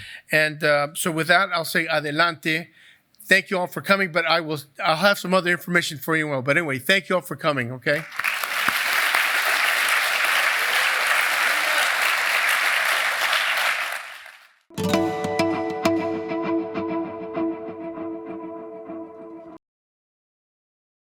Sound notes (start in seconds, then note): 7.9 applause